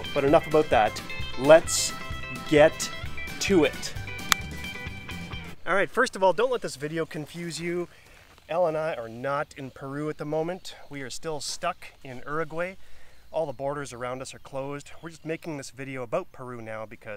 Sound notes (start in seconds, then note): 4.2 finger snapping